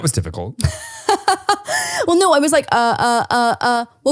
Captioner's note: laughs